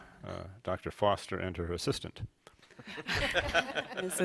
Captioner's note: laughter